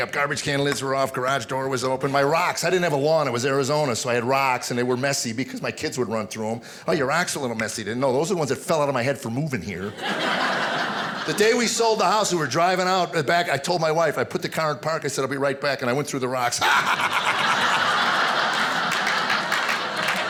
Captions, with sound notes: "Garbage can lids are off." "Garage door was open." My rocks... I didn't have a lawn, it was Arizona, so I had rocks and they were messy because my kids would run through them. "Oh, your rocks are a little messy." No, those are the ones that fell out of my head for moving here. (audience laughing) The day we sold the house, we were driving out, I told my wife, I put the car in park, I said, I'll be right back, and I went through the rocks. (hysterical laughing)